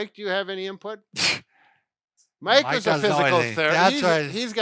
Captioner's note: scoffs